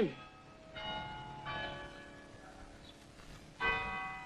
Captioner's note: clock bells toll